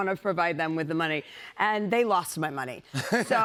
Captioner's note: laughter